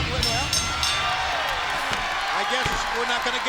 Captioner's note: bell rings